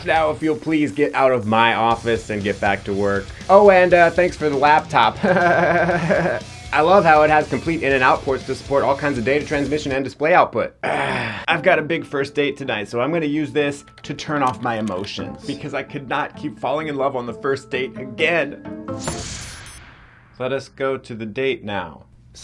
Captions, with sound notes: Now if you'll please get out of my office and get back to work. Oh, and thanks for the laptop. (laughing) I love how it has complete in and out ports to support all kinds of data transmission and display output. (ENTJ grunting) - I've got a big first date tonight so I'm gonna use this to turn off my emotions because I can not keep falling in love on the first date again. Let us go to the date now.